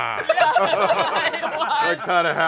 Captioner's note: laughter